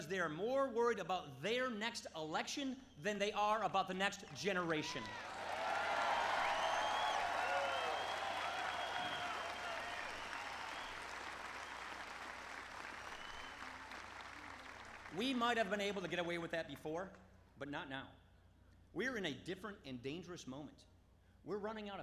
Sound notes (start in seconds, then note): 4.2 applause